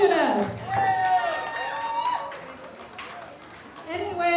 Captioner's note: cheers and applause